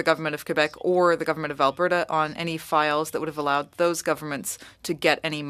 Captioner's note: speaking French